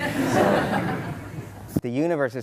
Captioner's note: laughter